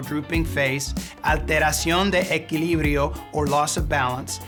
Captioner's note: speaking in Spanish